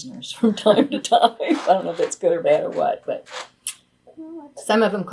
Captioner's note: laughs